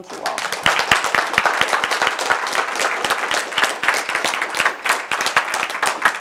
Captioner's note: applause